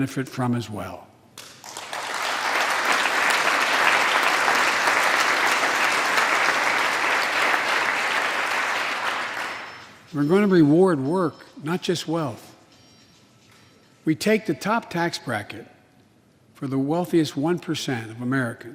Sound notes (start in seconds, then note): 6.6 applause